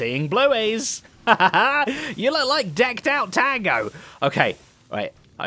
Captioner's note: laughs